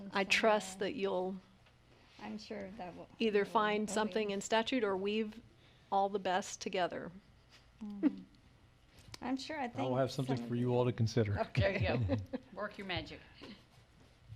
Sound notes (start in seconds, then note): 11.4 laughs